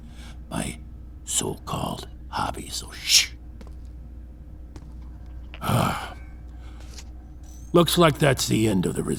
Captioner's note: digital chime, mechanisms shut down